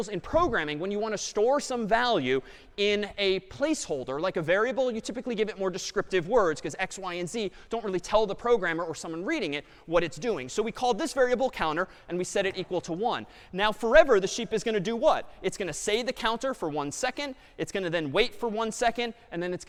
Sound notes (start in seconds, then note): none